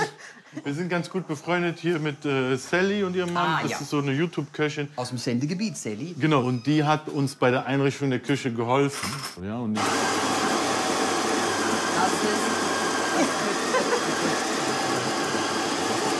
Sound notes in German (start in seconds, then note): 9.8 Lautes Maschinengeräusch; 13.1 lacht, Gespräch nicht hörbar